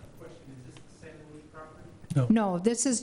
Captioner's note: murmurs